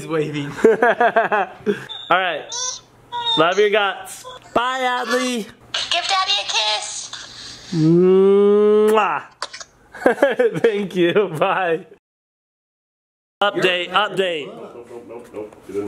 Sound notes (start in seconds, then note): 0.6 laughing; 8.8 kissing sounds